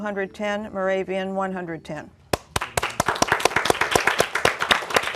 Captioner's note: applause